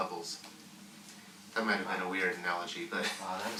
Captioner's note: laughs